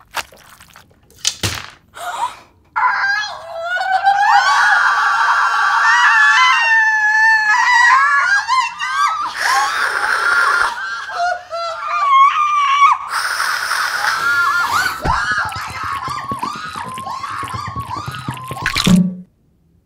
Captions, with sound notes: (fluid squishing) (women gasping) (shrieking) (screaming) (screaming) Oh, my God! (snarling) (screaming) (shrieking) (snarling) Oh, my God! (screaming)